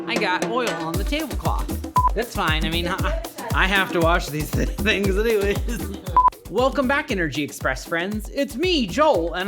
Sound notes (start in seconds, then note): 1.9 beep; 6.1 beep